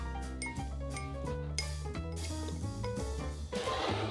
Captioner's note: whisking